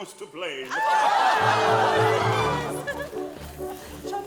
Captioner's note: people cheering; orchestral music